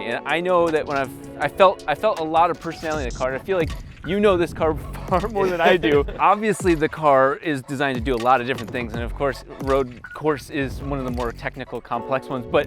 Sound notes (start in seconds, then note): 5.1 laughing